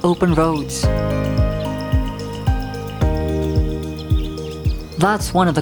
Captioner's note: birds chirping